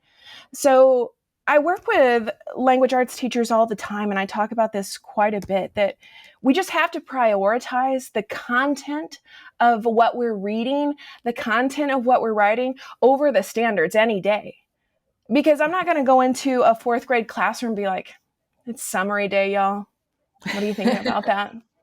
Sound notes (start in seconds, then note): 20.4 laughing